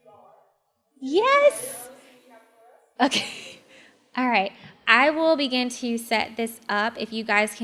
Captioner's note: laugh